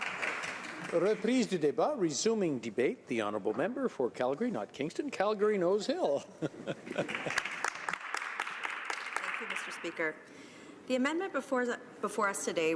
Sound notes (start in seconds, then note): 5.1 some applause